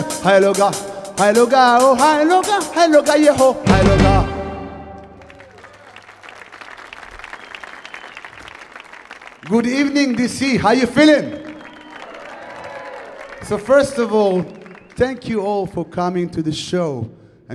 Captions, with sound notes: (audience clapping) (audience cheering) Good evening, D.C. How you feeling? (audience clapping) (audience cheering) So first of all, thank you all for coming to the show.